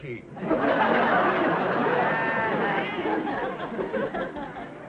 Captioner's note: audience laughing